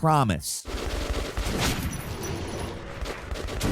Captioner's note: gun firing